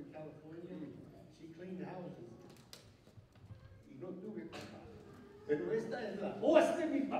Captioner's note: non-english speech